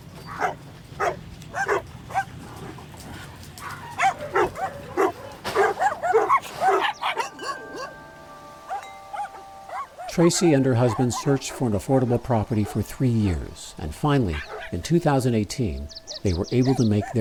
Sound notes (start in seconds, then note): 1.4 dogs barking; 7.1 wind chimes